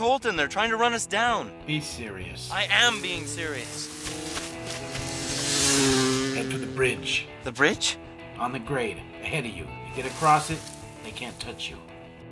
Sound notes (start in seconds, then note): 4.2 bike whirring; 4.2 gentle music